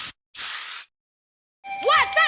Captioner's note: spray painting